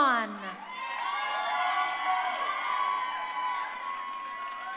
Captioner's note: crowd cheering